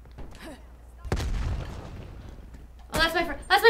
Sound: gunshot

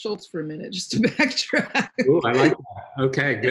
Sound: laughing

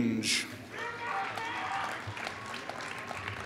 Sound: applause

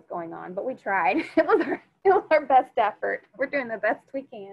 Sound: laughs

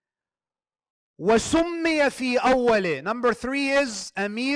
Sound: Arabic

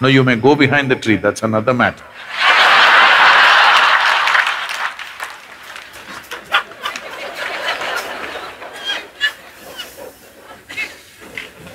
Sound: laugh and Applauds

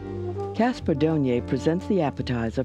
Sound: voiceover

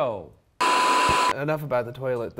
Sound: static crackles

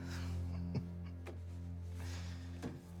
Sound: laughs

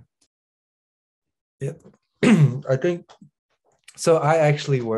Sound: he clears throat

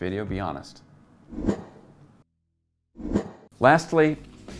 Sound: air whooshing

